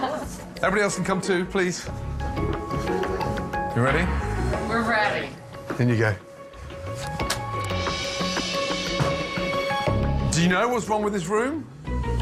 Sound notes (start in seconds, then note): 1.8 intriguing music; 6.8 door opens